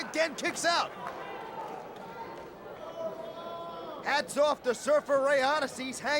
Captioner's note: crowd chatter